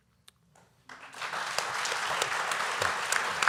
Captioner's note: applause